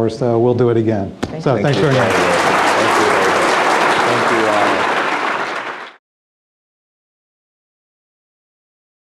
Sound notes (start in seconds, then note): 1.6 audience applauds